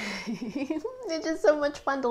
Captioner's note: chuckles